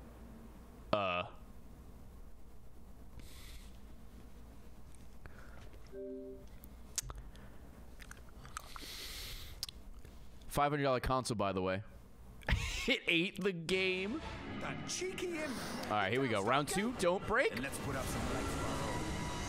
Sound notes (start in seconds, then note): 5.5 sighs; 9.4 laughs